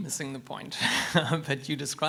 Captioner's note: laughs